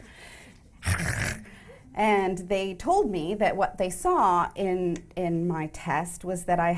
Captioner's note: throat sounds